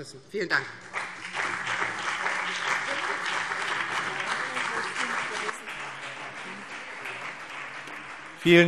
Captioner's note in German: Beifall BÜNDNIS 90/DIE GRÜNEN und vereinzelt CDU